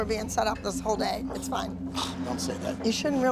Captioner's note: scoffs